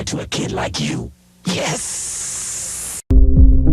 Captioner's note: hissing